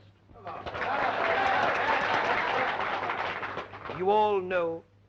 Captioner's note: audience applauding